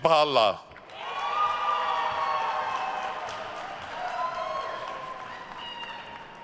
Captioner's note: attendees cheering and applauding